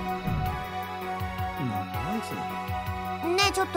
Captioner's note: whisper